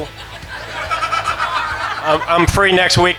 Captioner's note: laughing